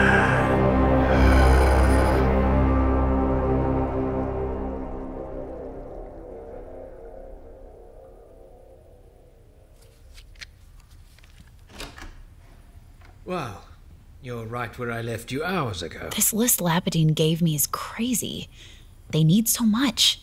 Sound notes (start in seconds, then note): 0.2 transitional music; 7.6 door opening, footsteps